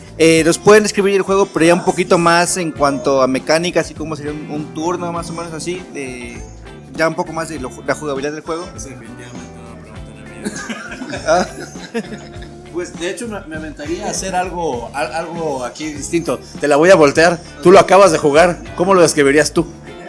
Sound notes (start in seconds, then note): 10.1 laughs